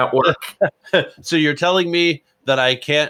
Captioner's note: laughs